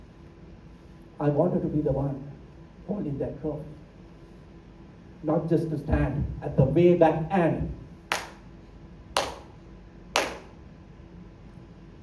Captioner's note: claps